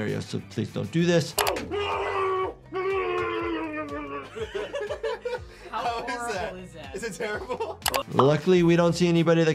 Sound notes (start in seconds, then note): 1.4 yelling; 3.5 Smosh cast laughing; 7.5 laughing